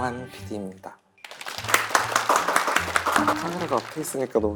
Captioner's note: applause of encouragement and support